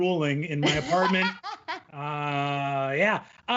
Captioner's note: laughing